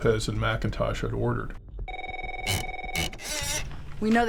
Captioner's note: phone rings